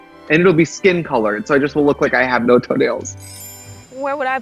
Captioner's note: chimes